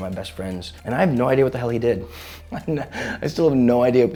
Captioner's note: chuckles